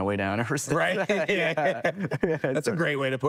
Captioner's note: laughs